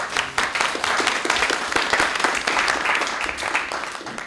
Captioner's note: applause